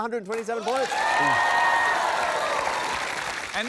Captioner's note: cheering, applause